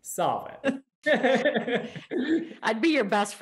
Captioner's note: laughing